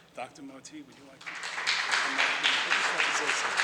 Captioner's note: audience applauds